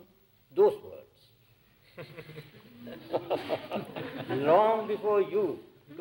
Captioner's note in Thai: เสียงหัวเราะ